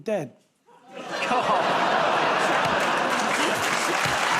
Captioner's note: audience groans; cheers and applause